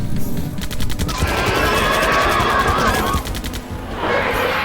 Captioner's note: loud screeches and roars; bullets ricochet